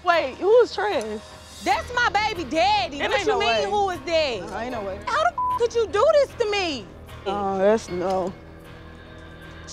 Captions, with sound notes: Wait, who is Trez? That’s my baby daddy. It ain’t noway. What you mean, "Who is that?" How the (beep) could you do this to me? Oh, that’s ... no.